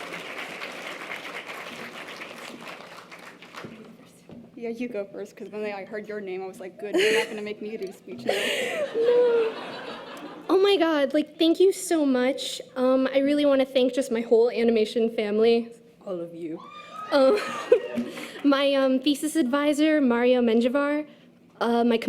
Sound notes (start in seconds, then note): 8.2 audience laughter; 16.6 cheers from audience